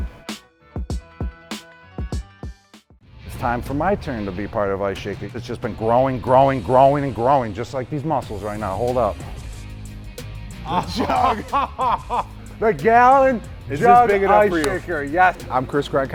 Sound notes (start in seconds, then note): 0.0 upbeat music; 10.6 laughing